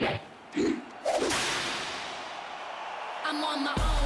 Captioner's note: whip snaps